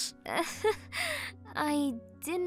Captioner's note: laughs nervously